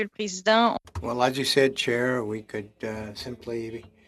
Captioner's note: speaking French